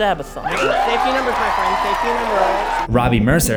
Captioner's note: cheers erupt